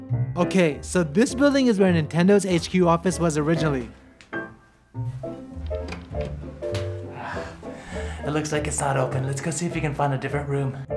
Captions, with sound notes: Okay, so this building is where Nintendo's HQ office was originally. [Door handle jiggling] It looks like it's not open, let's go see if we can find a different room!